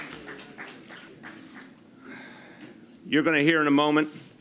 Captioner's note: applause